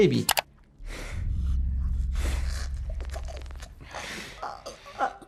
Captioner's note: gasping